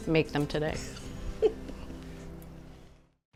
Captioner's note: laughs